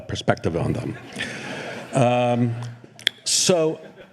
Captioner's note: laughter